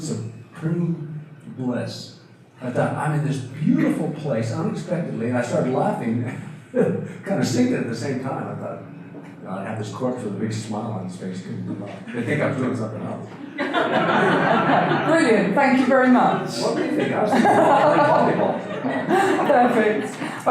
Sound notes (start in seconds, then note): 6.7 chuckles; 13.3 audience laughter; 16.6 audience laughter